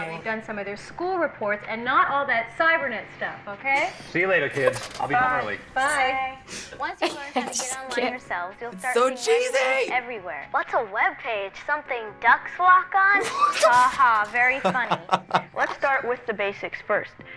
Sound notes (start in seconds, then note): 6.7 laughs; 13.1 laughter